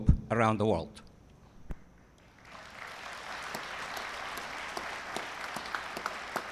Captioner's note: applause